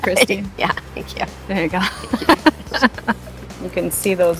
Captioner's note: laughing